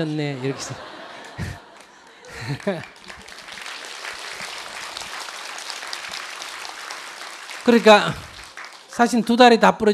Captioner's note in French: rire et applaudissement du public